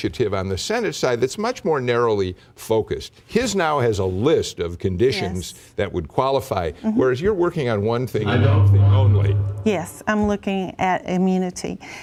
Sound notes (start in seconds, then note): 8.2 microphone feedback echoes